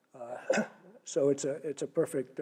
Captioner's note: cough